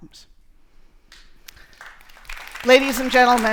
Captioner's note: audience applauds